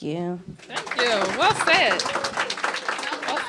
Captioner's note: applause